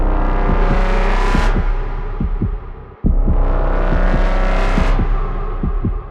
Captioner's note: droning music continues; heart beating